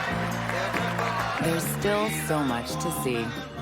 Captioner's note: applause